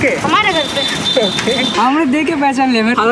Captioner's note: laughing